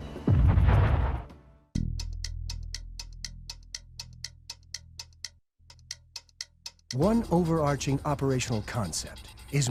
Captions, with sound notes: (clock ticking) One overarching operational concept